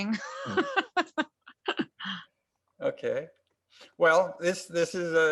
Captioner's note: laughing